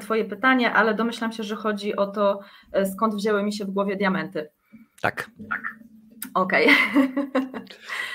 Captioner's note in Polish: śmiech